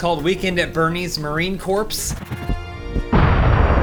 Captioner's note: grenade exploding